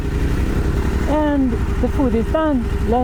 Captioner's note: wind blowing